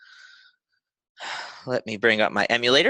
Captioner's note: sighs